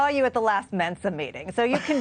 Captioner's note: laughter